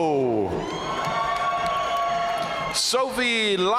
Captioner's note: audience cheering and applauding